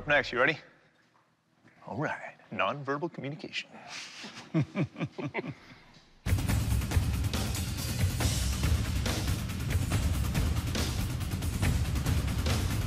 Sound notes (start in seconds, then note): 4.1 chuckles; 6.2 tense music